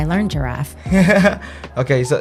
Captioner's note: laughing